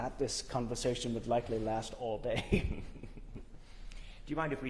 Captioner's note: laughs